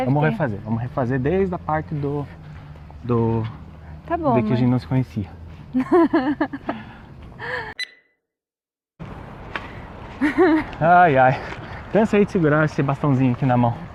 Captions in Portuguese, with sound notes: - Vamos refazer, vamos refazer desde a parte de que a gente não se conhecia. - Tá bom, amor! [risos] - Ai, ai. Cansei de segurar este bastãozinho aqui na mão!